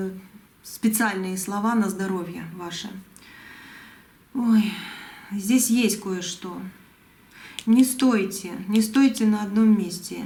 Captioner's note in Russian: вздыхает